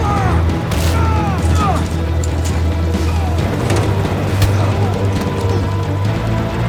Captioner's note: punching sound; blade whirring